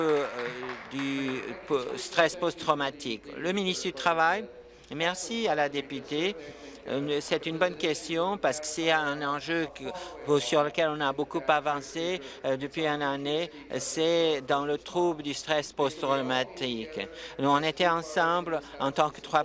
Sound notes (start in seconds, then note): 0.0 applause